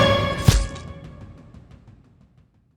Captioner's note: knife penetrates